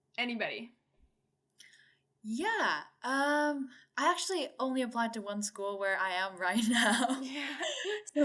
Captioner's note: chuckle